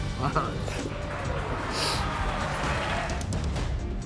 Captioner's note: audience applauding; dramatic music